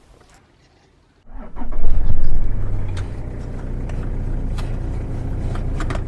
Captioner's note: start-up noise of a diesel engine